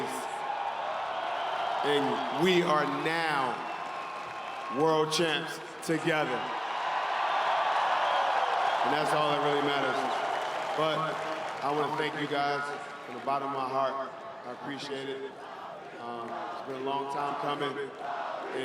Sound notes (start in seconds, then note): 9.6 cheering and Applause